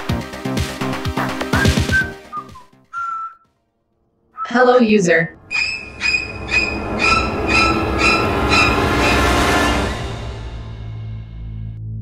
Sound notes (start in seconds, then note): 2.8 whistling